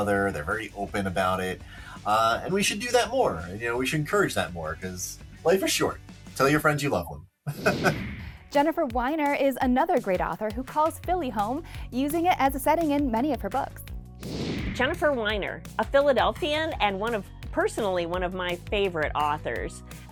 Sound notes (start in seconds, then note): 7.5 chuckles; 7.5 computer whooshing; 14.2 computer whooshing